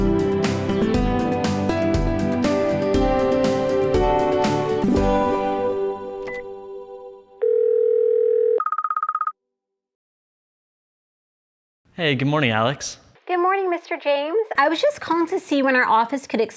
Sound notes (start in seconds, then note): 6.2 telephone beeps; 7.4 telephone rings